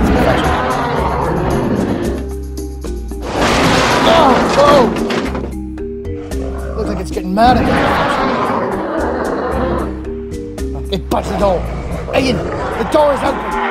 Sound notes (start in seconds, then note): 0.0 concavenator Sounds; 3.1 crash Sounds; 8.8 concavenator Growls